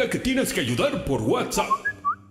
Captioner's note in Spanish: Alerta de mensaje